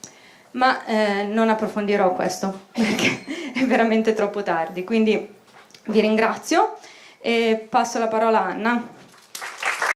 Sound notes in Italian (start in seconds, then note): 9.1 Applauso